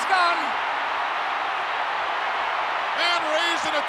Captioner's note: crowd cheering